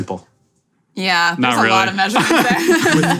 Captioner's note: laughing